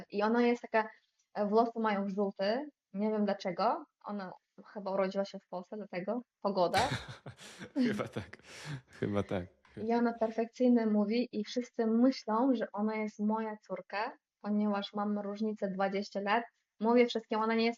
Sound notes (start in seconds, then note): 6.7 laughter